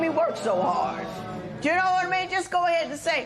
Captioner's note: spectators murmur